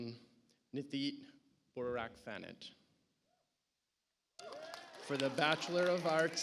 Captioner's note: audience applauds